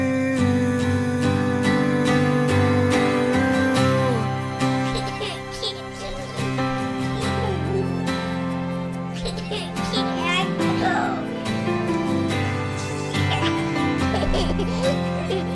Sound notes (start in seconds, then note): 0.1 moving guitar music; 4.9 child laughing